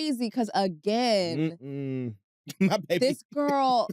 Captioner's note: laughs